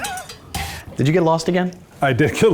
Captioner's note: percussion music; laughs